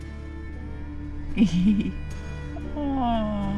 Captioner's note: giggles